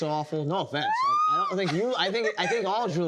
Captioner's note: shrieks